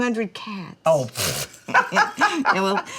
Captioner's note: laughs